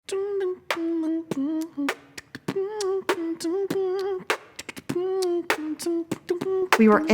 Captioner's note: beatboxing